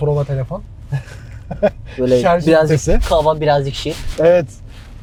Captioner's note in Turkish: kahkaha